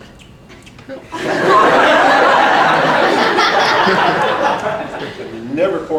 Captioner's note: lots and lots of laughter from the audience